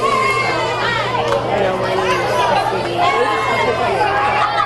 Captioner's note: audience cheering; people chattering